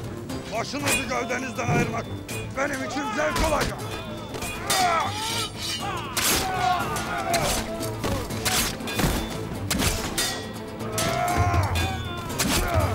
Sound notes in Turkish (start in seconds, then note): 4.4 Savaş sesleri; 12.4 Müzik - Hareketli